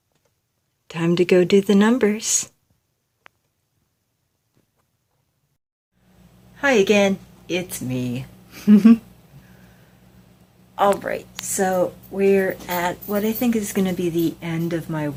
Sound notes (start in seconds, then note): 8.5 giggle